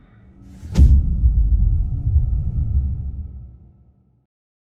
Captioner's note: dramatic sound